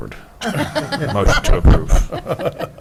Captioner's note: laughter